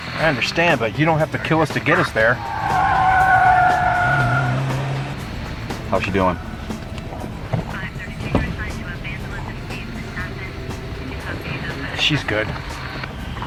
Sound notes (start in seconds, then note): 2.5 screeching car tires; 2.5 suspenseful music plays; 5.7 police radio